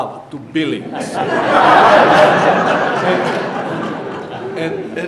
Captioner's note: audience laughing